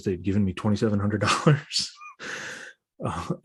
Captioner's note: laughs